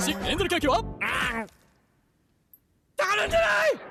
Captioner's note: chomp!